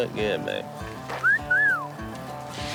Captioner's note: Jase whistles